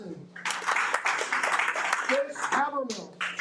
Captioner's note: audience applauding